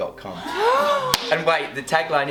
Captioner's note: laughing